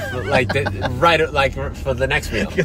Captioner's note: laughter